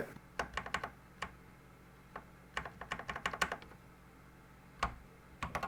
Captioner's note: typing on a Commodore 64 keyboard